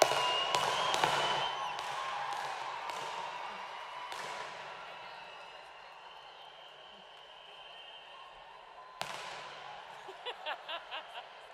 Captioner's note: cheers and applause